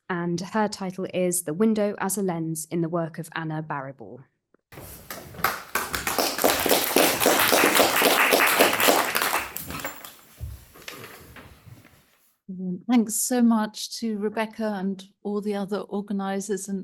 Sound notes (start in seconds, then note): 4.8 attendees applauding